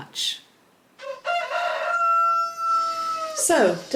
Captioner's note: rooster crowing